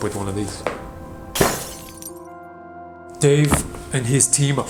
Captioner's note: glass shatters